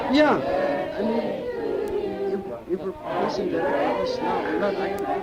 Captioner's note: audience cheering